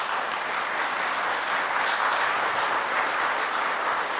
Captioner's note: audience applause